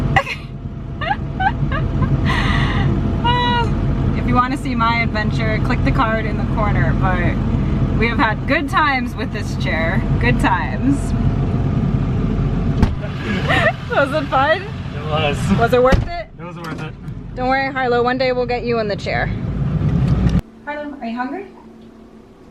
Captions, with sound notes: [Laughs] If you wanna see my adventure click the card in the corner but we have had good times with this chair. Good times. [Laughter] Was it fun? It was. Was it worth it? It was worth it. Don't worry Harlow. One day we'll get you in the chair. Harlow, are you hungry?